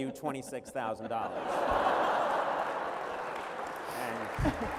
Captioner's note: laughter